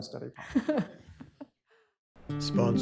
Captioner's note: laughter